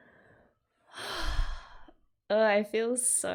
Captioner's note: sighs